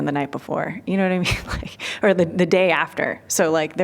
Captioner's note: laughter